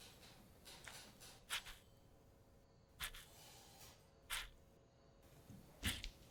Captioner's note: bingo dauber rustling papers